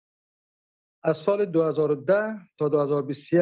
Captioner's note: speaking dari